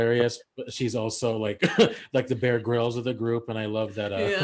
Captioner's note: laughs